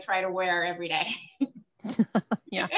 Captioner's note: laughter